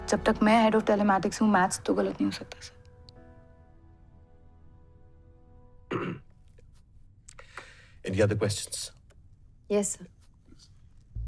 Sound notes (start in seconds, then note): 5.9 clearing throat